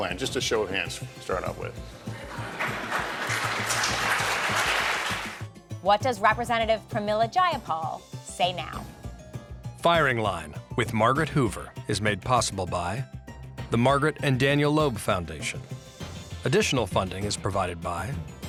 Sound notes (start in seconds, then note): 2.2 applause